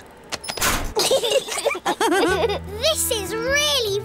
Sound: laughter

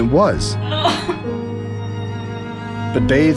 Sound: crying

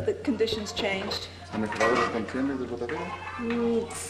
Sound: non-english speech

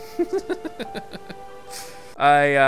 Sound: laughs

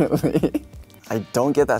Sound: he laughs

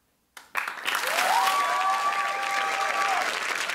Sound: cheering

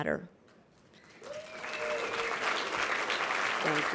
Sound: applause

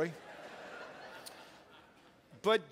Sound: crowd laughs

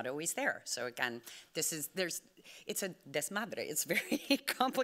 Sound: speaking Spanish

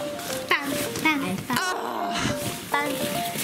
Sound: gasps

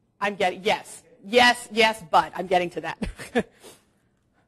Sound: chuckles

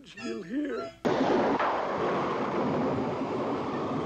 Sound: thundering

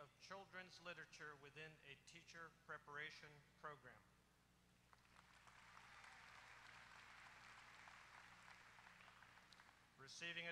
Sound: applause

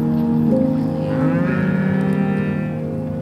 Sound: cows mooing

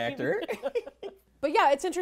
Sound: laughing

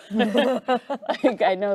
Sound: group laughing

